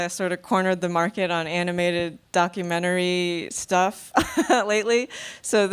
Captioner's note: laughs